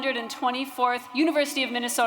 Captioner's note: cheers & Applause